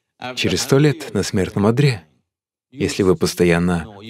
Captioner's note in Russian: Смеется